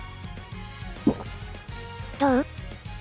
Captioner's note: sip